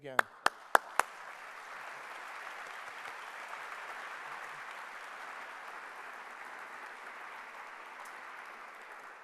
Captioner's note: clapping